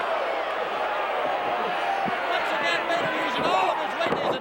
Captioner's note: audience drowning out announcer